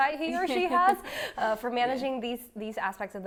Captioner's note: laughs